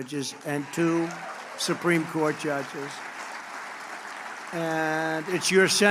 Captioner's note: applause